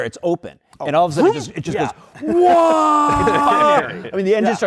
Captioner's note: screams